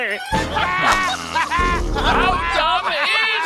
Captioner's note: laughing